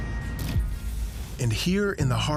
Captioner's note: wooshing